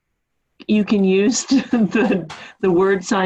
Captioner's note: chuckles